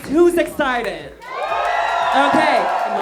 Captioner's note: cheering